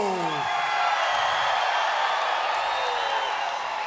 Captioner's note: crowed cheering